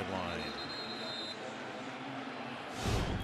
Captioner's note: whistle